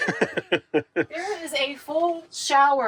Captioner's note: laughing